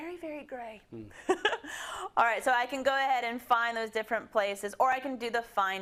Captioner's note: laugh